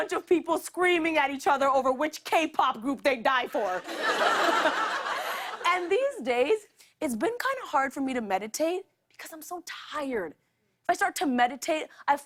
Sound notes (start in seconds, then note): 3.8 laughter